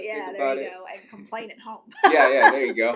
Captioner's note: laughs